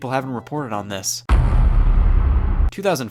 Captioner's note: heavy thud